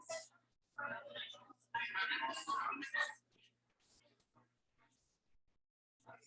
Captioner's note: people chattering indistinctly